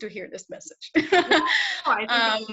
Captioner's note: laughs